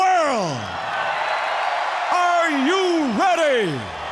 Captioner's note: crowd cheering